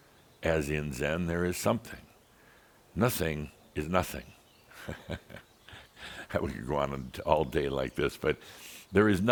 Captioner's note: chuckles